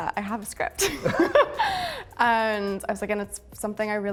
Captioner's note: laughs